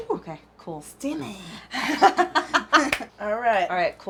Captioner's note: laughs